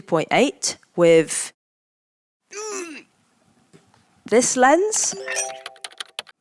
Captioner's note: groans